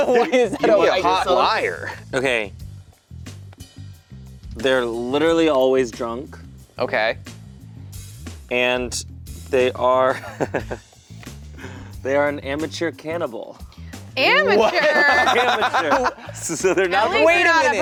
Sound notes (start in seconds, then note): 10.2 laughing; 14.5 laughing